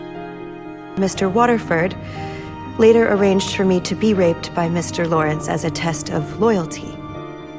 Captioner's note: voiceover